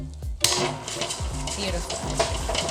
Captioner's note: mixer clattering